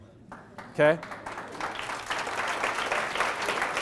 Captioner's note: clapping